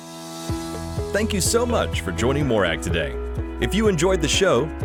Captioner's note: voiceover